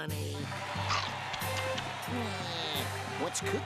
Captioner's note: audience roaring